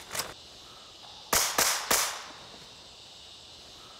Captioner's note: gunshots